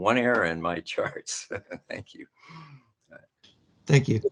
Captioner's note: laughs